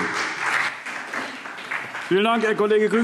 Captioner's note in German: Beifall SPD